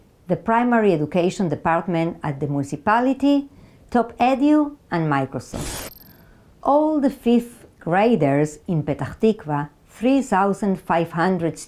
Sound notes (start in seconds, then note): 5.5 graphics screeching